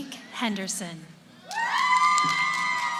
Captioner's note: cheering